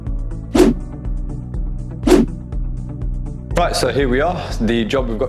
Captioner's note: link swooshes